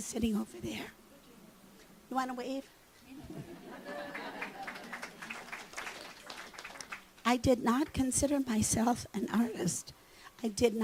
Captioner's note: clapping